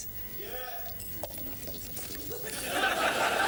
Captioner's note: mumbles under breath